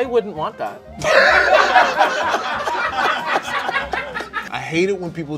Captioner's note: people laughing